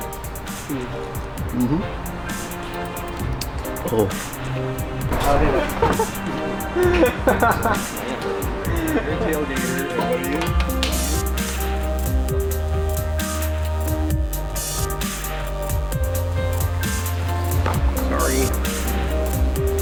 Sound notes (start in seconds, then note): 2.9 dramatic music; 6.4 laughing; 11.4 dramatic music; 19.6 dramatic music